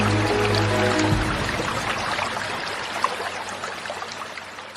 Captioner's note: sounds of water splashing